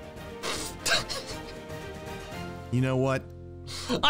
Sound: energetic music; laughing

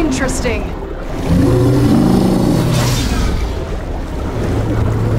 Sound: roars

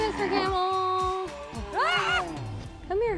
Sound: screams

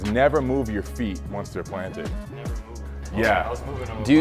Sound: none

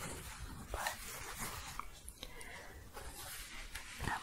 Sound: shuffling

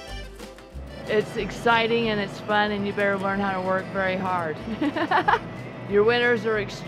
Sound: laughs

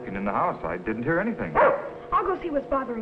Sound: dog barks

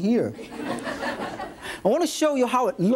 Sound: audience laughs

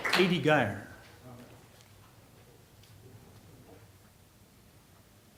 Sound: applause

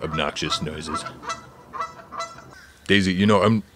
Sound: geese honking

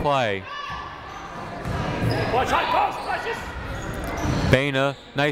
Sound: people shouting in the crowd

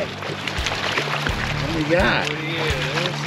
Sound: fish splashing

